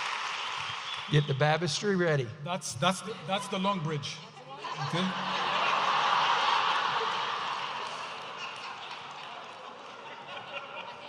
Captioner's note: audience applauding and cheering; audience laughing